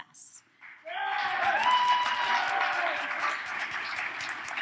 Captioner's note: audience cheers